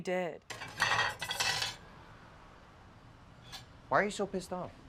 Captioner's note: plates clatter